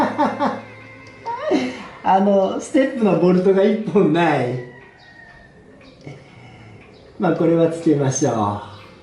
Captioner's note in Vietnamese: cười